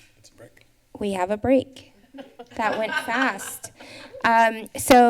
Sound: laughter

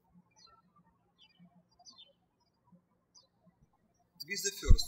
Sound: birds chirping

